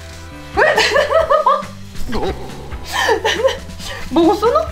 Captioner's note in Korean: 웃음 소리